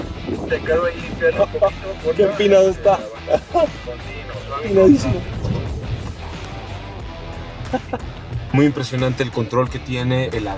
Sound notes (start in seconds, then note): 0.0 wind blowing; 2.8 nervous laughter; 3.7 voice on radio; 5.4 laughter